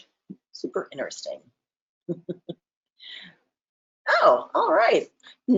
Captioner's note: chuckles